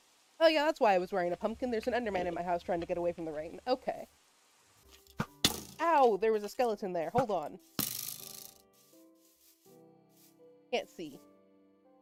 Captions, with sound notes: Oh yeah that's why I was wearing a pumpkin, there's an enderman in my house trying to get away from the rain, okay. [arrow hits] Ow, there was a skeleton there, hold on. [arrow misses] I can't see.